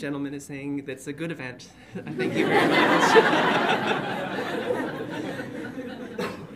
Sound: audience laughs

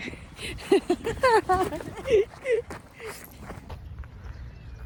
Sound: laughs

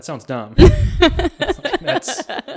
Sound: laughs

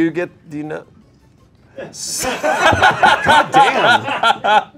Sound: laughter

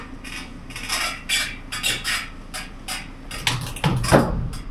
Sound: metal scraping

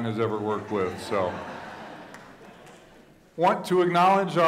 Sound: audience laughing

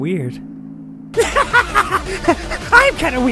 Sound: maniacal laugh

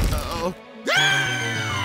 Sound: screams

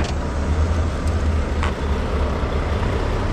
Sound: motor rumbling

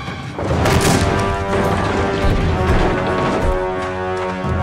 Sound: door smashes open, music blares

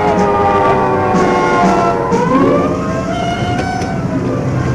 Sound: sirens blaring

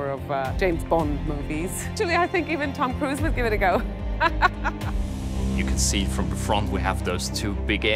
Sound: laughs

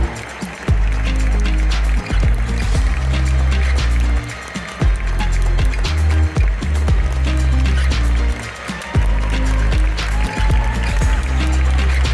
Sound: applause; ♫ Midtempo guitar music ♫

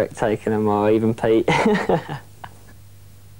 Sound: laughs

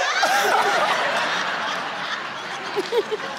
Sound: laughs

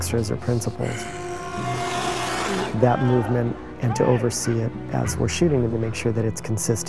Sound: growling

